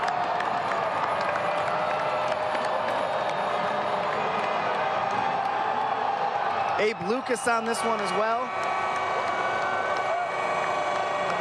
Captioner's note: applause